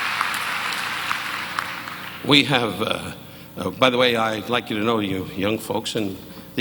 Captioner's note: audience cheering; audience applauding